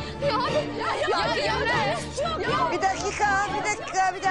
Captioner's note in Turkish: Bağırışmalar